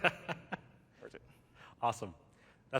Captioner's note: laughter